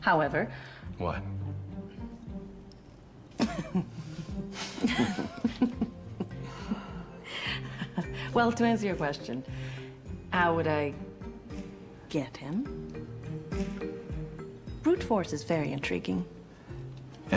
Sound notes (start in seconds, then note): 4.6 laughs